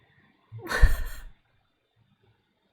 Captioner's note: laughs